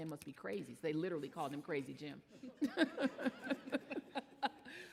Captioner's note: laughs